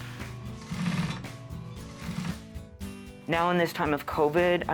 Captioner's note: sewing machine whirring